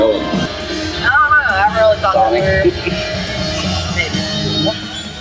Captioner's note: laughs